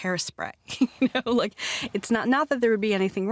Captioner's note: laughs